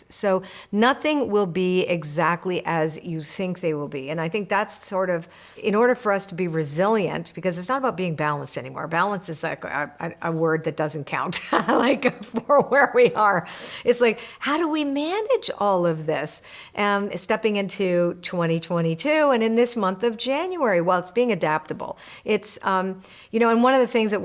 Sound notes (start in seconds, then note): 11.3 laughing